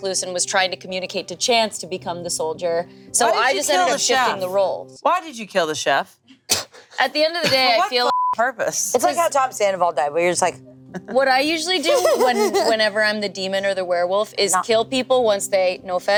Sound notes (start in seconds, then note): 7.4 group laughing; 8.0 beep